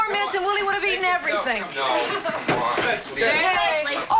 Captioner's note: all conversing happily